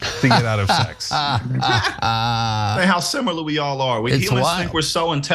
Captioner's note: laugh